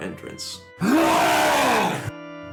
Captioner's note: long wookie roar